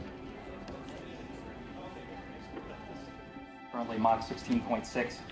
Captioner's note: crowd mumbling